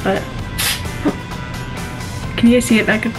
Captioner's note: can spraying